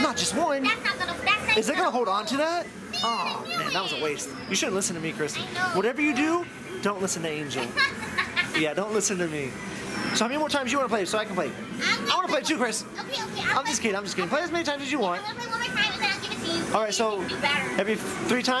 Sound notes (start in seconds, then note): 7.6 laughing